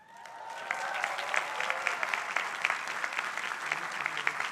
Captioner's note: crowd applauding